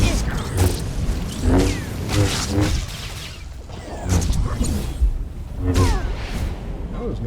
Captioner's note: explosion